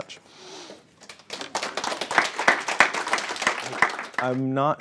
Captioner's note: applauding